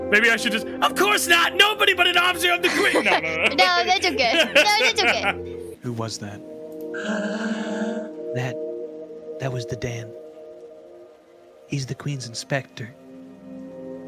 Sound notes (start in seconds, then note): 2.3 laughs